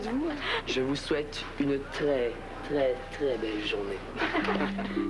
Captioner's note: Rires